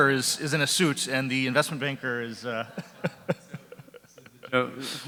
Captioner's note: laughs